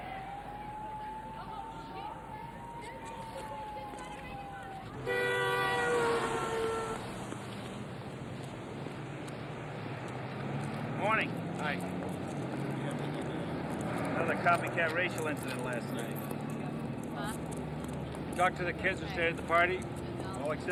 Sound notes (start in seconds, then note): 0.0 people chattering; 0.0 sirens wailing; 4.9 horn honking; 5.3 vehicles humming